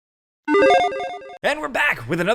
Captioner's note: digital chimes ringing